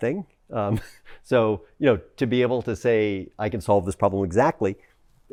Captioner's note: laughs